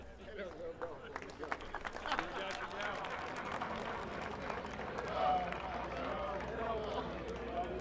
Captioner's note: applause